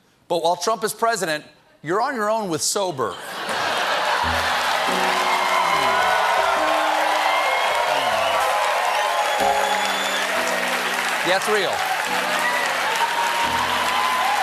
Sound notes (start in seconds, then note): 3.1 laughter; 3.4 cheers and applause